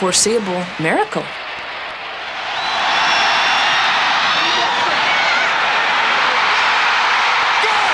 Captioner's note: cheering